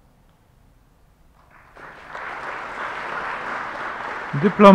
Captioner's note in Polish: oklaski